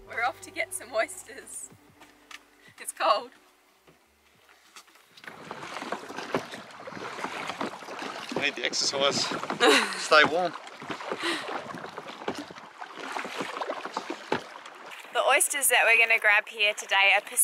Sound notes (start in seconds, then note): 5.9 oars lapping; 12.0 oars lapping